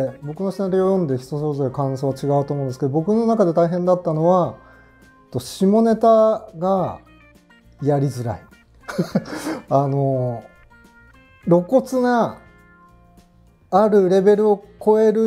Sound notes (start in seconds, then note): 8.9 laughing